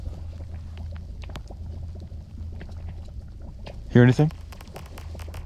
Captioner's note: ice crackling